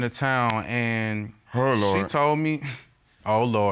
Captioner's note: scoffs